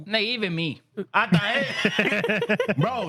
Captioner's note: laughing